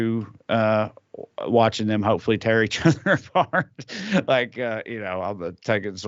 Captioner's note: laugh